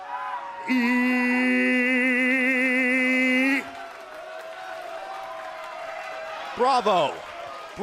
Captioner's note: crowd cheering